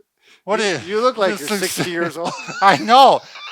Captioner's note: laughs